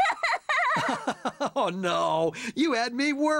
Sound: chuckling; laughs

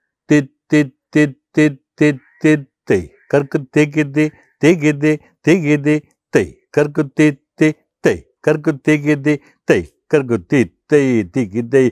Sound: recites

